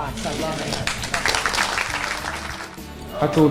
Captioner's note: crowd applauds